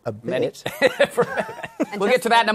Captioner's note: laughter